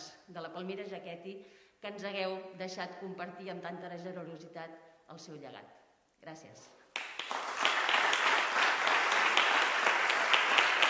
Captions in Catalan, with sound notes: de la Palmira Jaquetti que ens hàgiu deixat compartir amb tanta generositat el seu llegat. Gràcies. (Aplaudiments)